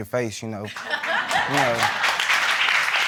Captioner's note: crowd cheering and laughing